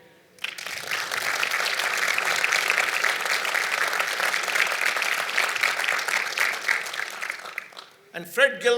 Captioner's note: applause